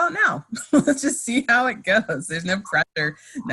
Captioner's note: laughs